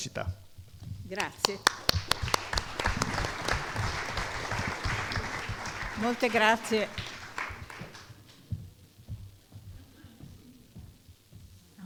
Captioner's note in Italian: Applauso